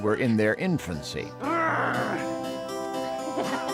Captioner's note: <i> growls</i>; <i> kisses and giggles</i>